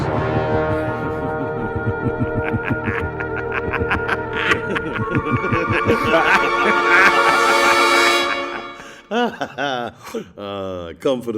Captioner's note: evil laughter